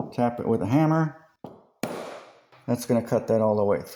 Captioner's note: hammer sound